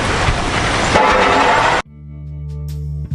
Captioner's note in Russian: Интригующий звук